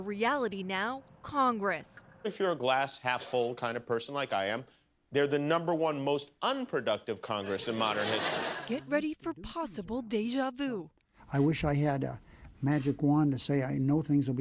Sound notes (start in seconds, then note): 7.3 laughter